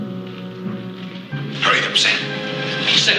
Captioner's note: hushed